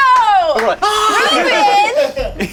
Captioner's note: screams